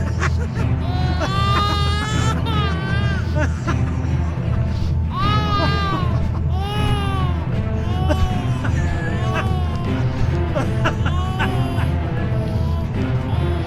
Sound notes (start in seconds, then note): 0.0 man's laughter; 0.0 baby crying; 3.1 man's laughter; 9.6 feet shuffling